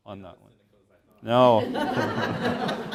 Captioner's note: laughter